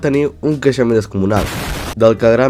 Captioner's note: explode